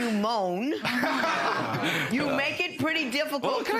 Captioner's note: audience laughs